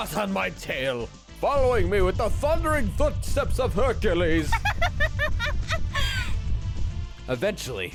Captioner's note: laughs triumphantly